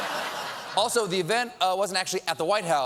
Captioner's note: laughter